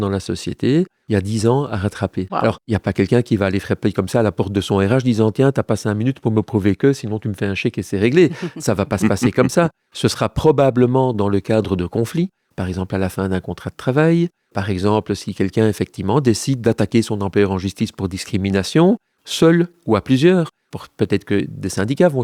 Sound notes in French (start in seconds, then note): 9.0 Rires